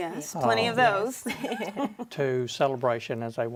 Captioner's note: women laugh